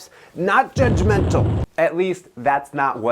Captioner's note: fireball roars